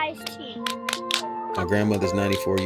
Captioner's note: three claps